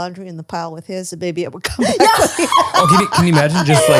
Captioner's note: laughs